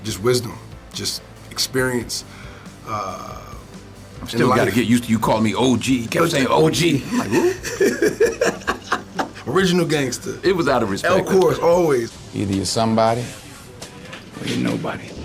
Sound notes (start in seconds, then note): 6.9 laughs; 15.0 upbeat music